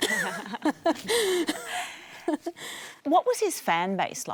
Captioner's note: laughs